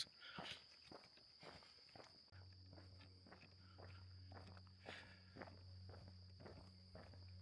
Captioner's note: footsteps